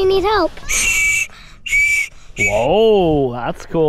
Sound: whistle blowing

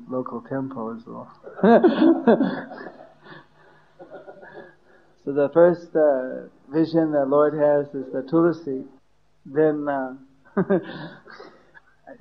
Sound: laughter

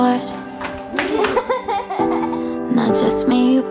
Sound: laughs

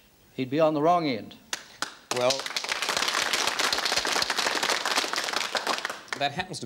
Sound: applause

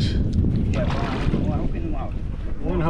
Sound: fish splashing

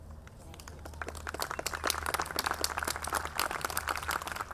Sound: audience clapping

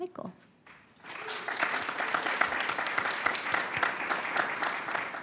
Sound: audience applauds

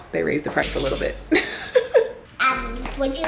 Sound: laughs

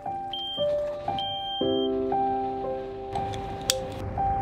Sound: soft beeping

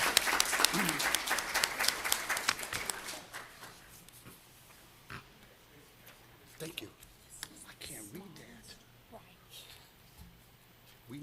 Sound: applause

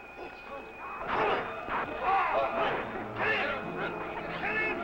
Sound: crowd shouting

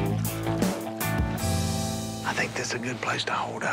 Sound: whispering

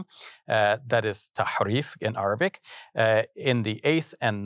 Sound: speaking foreign language

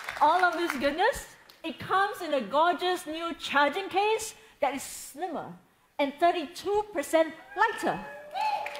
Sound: cheering

